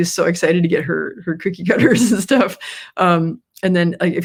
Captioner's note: laughs